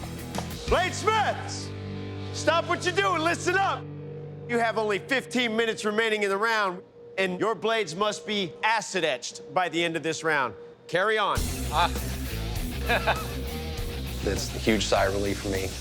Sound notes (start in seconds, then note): 12.5 laughs